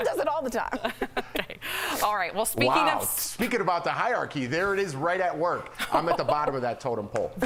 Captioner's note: laughter